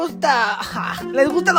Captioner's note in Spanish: risa